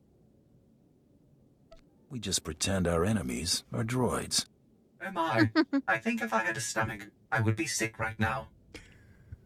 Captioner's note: laughs